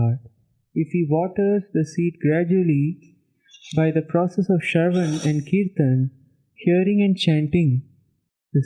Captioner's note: hearing and chanting